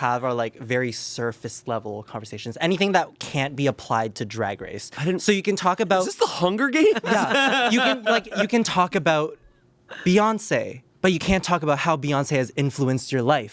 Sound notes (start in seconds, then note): 6.8 laughs